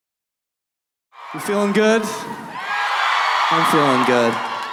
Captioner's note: cheering